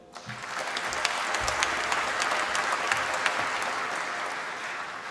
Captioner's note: applause